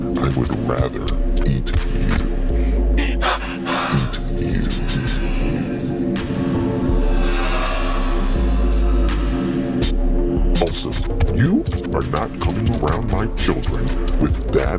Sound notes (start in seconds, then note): 5.7 echoes